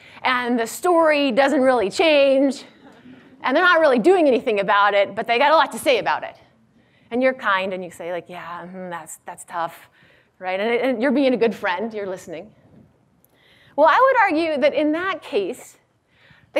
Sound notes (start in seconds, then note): none